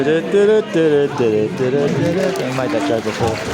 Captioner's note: Humming the Apprentice theme tune